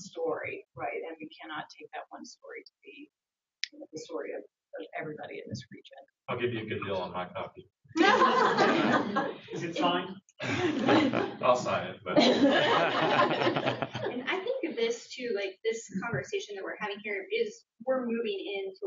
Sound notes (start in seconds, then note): 8.0 laughter